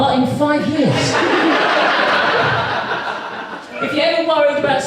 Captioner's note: audience Laughs